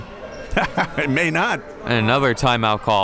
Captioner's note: laughs